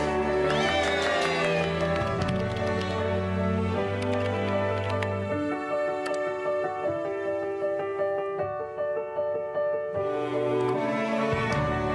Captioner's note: applause